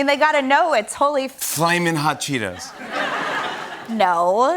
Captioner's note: laughter